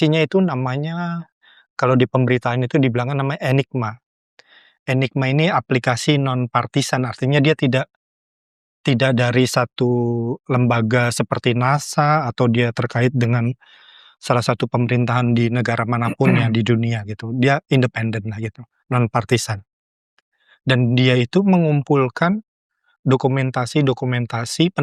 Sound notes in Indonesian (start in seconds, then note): 16.1 berdehem